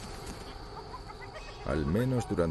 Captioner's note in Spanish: risas